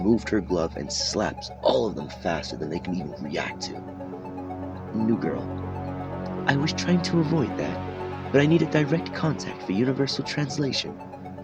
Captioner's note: with a British accent